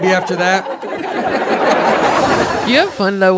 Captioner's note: audience laughs